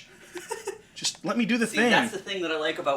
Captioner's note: laughing